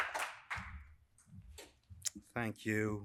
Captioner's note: applause